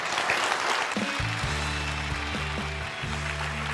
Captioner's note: applause